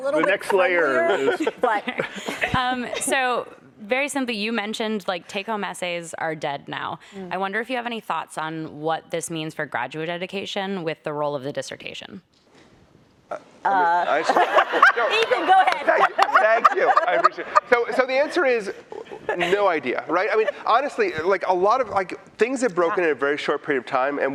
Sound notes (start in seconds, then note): 12.4 laughter